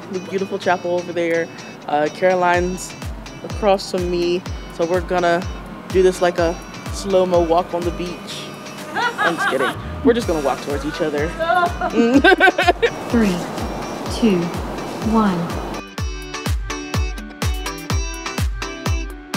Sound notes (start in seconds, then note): 8.9 woman laughs; 10.9 laughs; 15.8 upbeat music continues